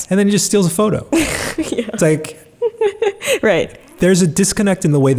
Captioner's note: laughs